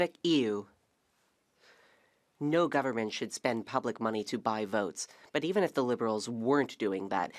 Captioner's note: speaking French